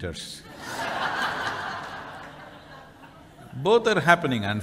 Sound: laughter

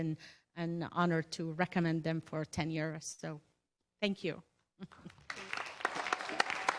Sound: applause

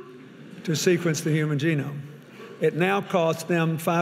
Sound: audience laughing

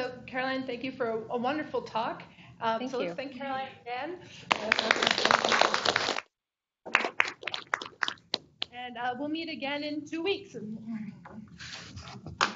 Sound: applause

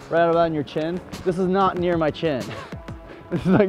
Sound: laughs

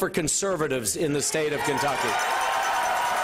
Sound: cheering and applause

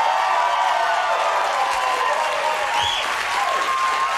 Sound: crowd cheering

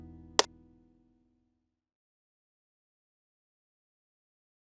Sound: clapperboard claps

